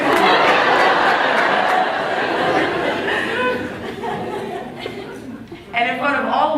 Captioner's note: laughs